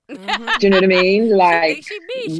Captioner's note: laughing